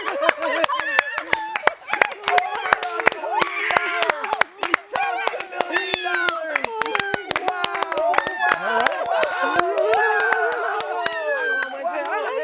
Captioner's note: cheering